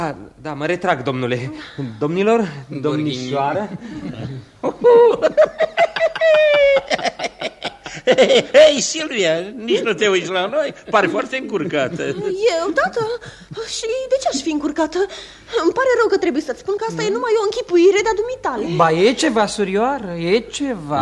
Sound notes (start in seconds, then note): 3.6 laughs